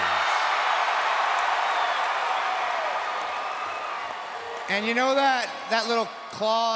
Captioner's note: applause